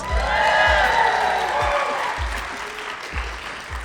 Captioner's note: cheering